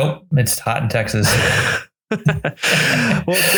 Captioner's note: both laugh